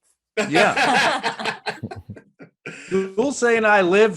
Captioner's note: panelists laughing